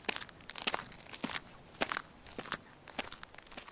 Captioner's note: footsteps